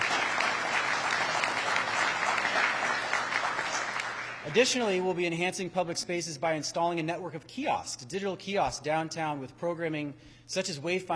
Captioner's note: applause